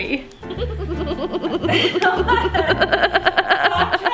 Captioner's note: laughs